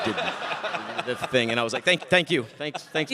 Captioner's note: audience laughing